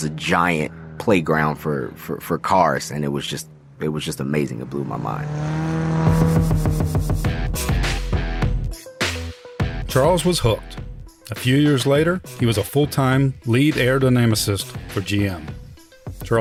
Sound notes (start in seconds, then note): 5.5 car races; 7.8 upbeat music